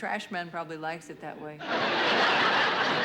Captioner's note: laughter